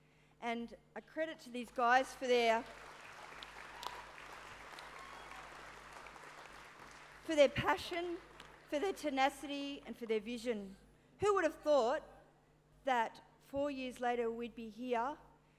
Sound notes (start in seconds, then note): 2.2 applause